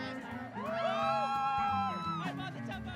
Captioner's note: cheering